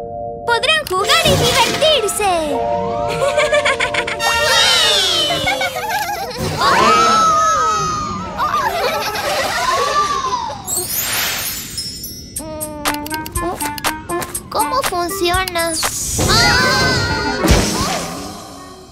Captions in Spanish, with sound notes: podrán jugar y divertirse! (Risas) ¡Sí! ¡Ohhhhhh! (Risas) Mmm… ¿Cómo funciona? ¡Ahhhhh!